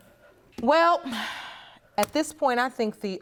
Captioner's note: sighs